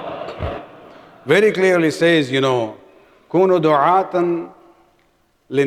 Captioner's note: arabic